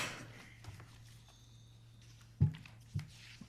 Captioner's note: coughs